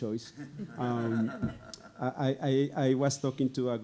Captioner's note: audience laughing